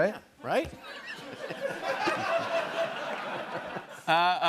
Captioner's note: laughter